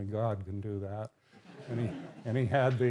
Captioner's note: laughter